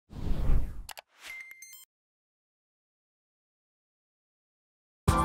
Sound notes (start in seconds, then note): 0.1 logo whooshes; 0.8 logo clicks; 1.2 logo tinkles